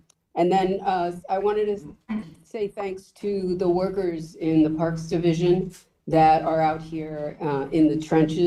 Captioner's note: clears throat